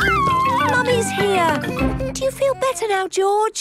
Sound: George crying

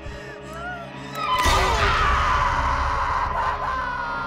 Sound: Brigit screaming

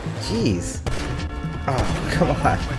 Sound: gunshots bang

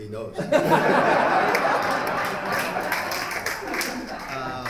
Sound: laughter

